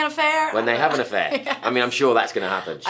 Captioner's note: laughing